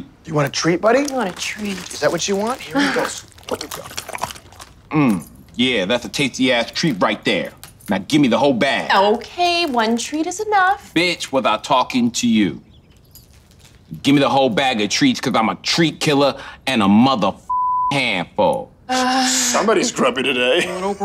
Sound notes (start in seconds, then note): 17.5 beep